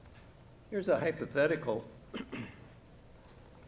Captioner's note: clears throat